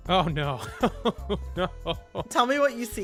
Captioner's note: laughter